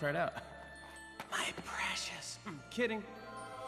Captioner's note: imitates Gollum